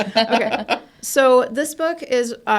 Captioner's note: laughs